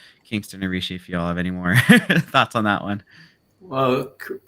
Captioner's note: laughs